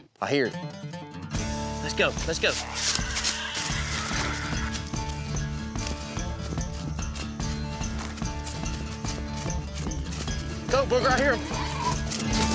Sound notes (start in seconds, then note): 2.4 snorting